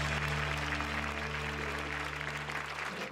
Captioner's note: applause